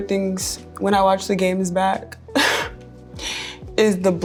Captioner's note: chuckling